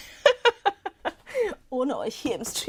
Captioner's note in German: Gelächter